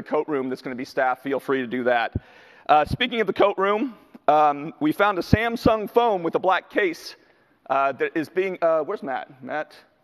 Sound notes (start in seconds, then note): none